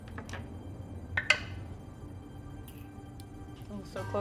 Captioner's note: die rolling